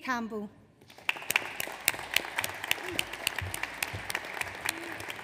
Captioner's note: audience applauds